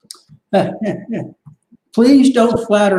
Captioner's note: laughs